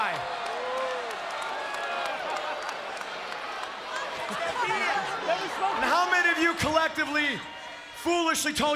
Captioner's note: applause